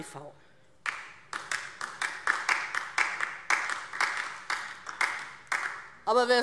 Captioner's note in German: Beifall DIE LINKE